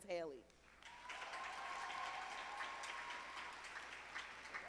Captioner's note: audience applauding